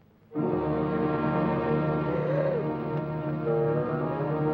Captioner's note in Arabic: موسيقى درامية; الصبي يلهث; موسيقى مشؤومة